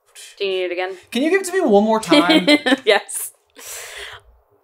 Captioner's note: laughing